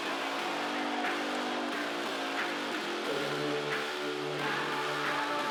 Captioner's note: audience cheering